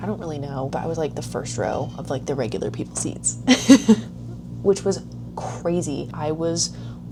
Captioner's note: laughing